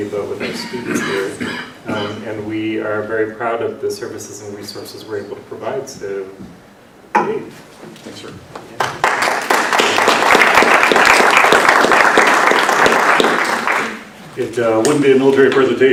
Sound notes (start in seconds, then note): 8.7 applause